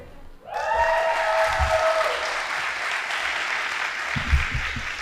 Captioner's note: audience applauding